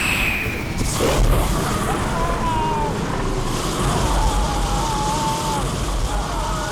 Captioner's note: dragon roars; Matt screams